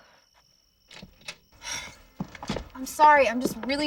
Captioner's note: sighs